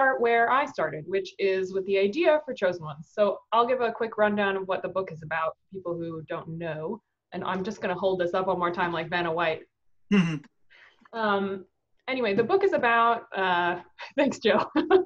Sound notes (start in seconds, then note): 10.1 chuckles; 13.8 laughing